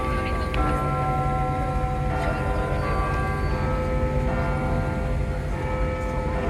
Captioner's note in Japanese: チャイム